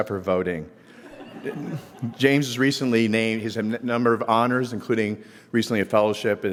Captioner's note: laugh